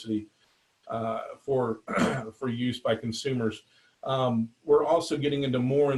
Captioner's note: clears throat